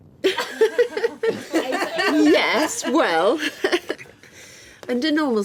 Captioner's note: laughing